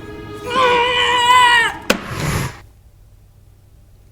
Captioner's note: yelling